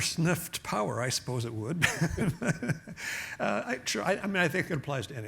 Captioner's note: laughs